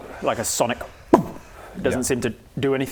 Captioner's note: boom!